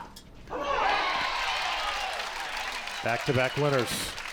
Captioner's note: crowd applauds